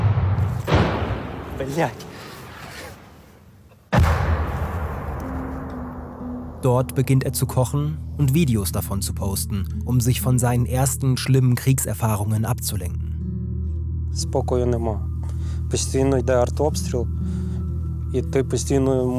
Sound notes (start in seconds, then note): 0.2 crashes; 3.6 crashes; 5.1 melancholic sounds